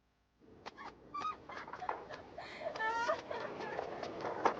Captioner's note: girl laughing